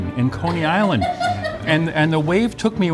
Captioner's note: laughs